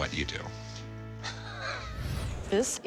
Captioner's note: laughing